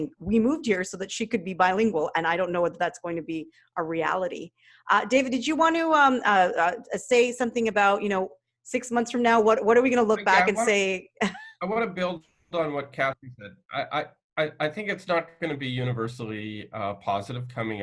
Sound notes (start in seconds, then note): 11.6 laughs